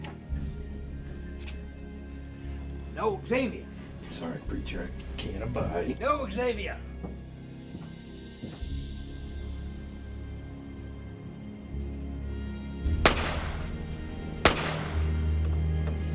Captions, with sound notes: No, Xavier! - I'm sorry, preacher, I can't abide. - No, Xavier! (soft orchestral music) (guns firing)